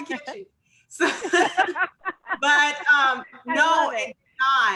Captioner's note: laughs